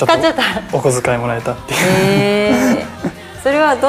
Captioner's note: laughs